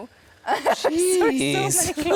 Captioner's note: laughing